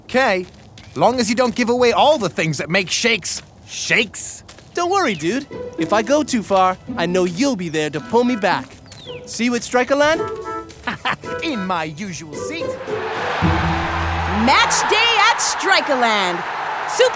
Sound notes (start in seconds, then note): 10.7 laughs; 12.1 crowd cheering